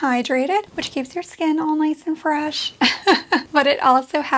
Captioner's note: laughs